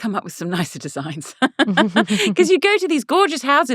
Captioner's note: laughing